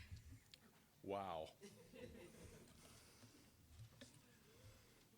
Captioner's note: audience chuckling